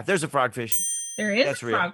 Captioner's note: ding